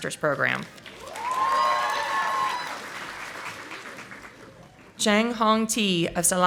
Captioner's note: audience applauding